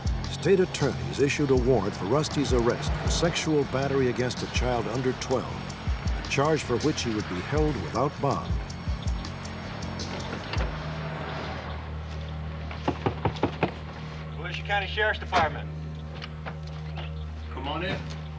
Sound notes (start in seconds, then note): 12.9 knocking on door